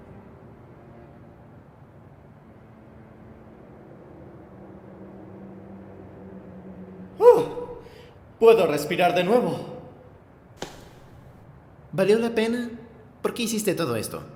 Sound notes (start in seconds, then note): 7.2 sigh